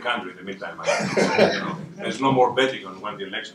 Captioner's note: laughter